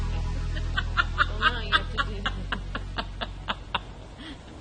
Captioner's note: laughing